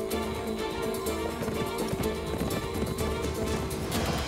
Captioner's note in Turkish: Nal sesleri